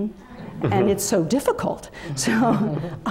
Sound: laugh

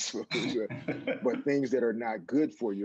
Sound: chuckles

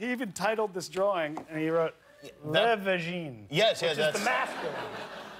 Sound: laughter

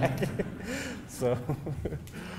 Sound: laughing

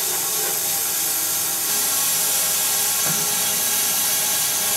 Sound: saw whirring continues

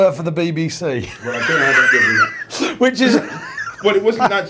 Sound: laughs

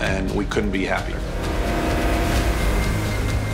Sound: engine revving

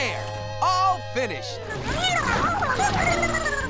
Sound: squeaking

